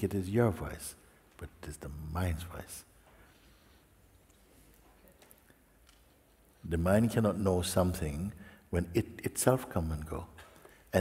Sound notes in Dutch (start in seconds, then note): none